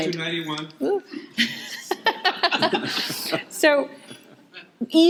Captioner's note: audience laughing